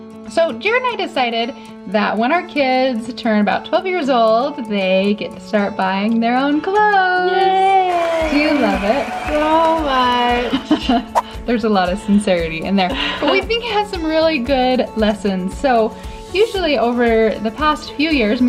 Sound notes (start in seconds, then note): 7.8 applause; 10.5 laughs